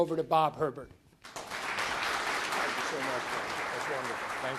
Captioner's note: audience applauds